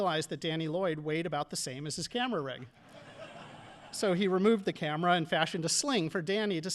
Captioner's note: audience laughing